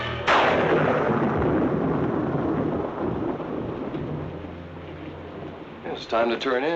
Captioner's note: suspenseful music continues; lightning crashing